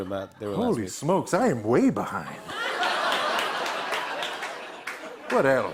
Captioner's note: laughter and applause